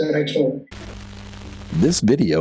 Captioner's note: static